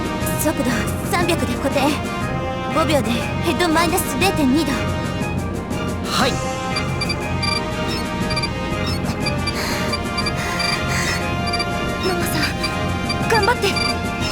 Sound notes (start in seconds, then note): 5.9 labored breathing